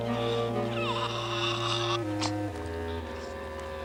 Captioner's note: nasal sounds